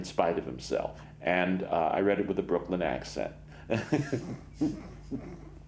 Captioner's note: laughs